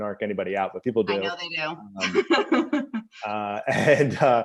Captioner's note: laughs